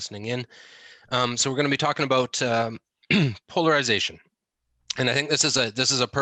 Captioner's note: clears throat